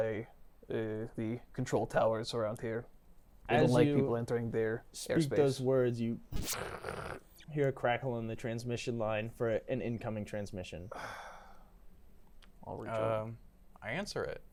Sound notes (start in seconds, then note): 7.0 cracking